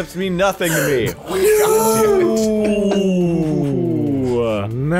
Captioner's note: the most PAINFUL collection of oooh's